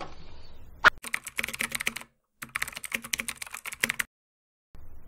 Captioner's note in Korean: 타자 소리